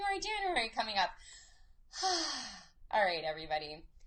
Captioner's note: sighs